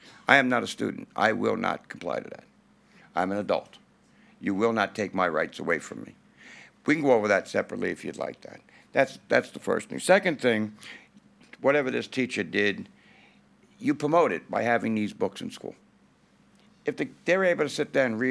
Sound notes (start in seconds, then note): none